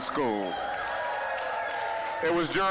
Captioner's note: applause, cheering